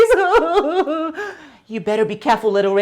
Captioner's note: Gretel sobbing